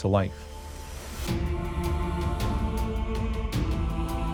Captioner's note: dramatic sound